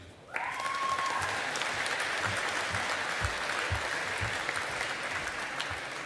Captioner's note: audience applauding